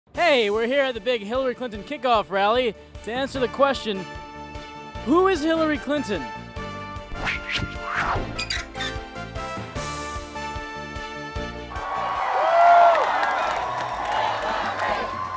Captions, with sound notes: - Hey, we're here at the big Hillary Clinton kick-off rally to answer the question, who is Hillary Clinton? (swishing and metal hinge creaking) (crowd cheering and chanting Hillary, Hillary)